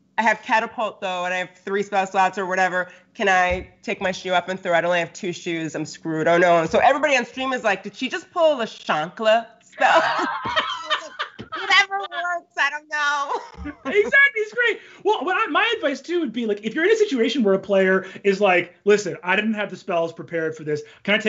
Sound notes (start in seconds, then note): 9.8 Brennan laughs